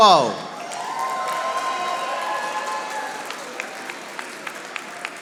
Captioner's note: audience applauding